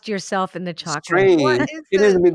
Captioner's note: laughs